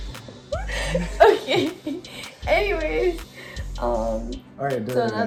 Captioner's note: laughter